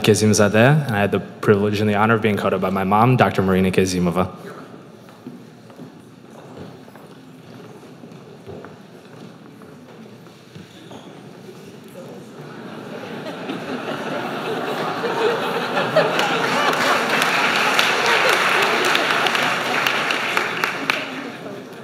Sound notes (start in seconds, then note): 12.4 laughter; 19.3 applause